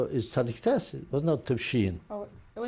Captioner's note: non-english